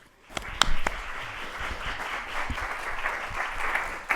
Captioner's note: audience applauding